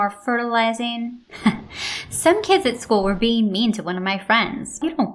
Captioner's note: chuckle